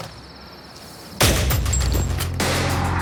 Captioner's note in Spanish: Disparo